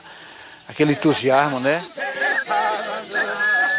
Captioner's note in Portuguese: Chocalhos e vozes